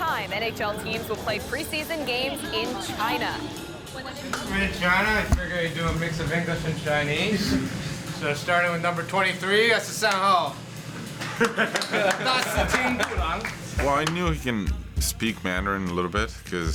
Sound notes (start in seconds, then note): 10.7 speaking Chinese; 11.3 applause